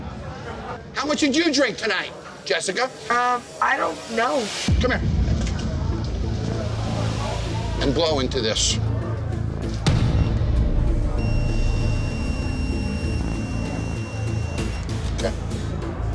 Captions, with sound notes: How much did you drink tonight, Jessica? I don't know. Come here. And blow into this. [TENSE MUSIC] [BREATHALYZER BEEPING] OK.